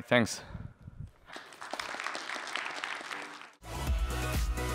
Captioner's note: applause